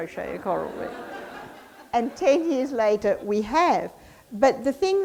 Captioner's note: audience laughs